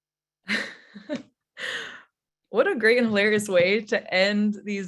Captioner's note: chuckles